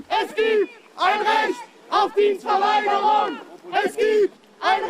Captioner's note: shouts of protest